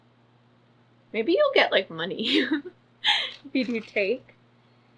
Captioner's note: laughs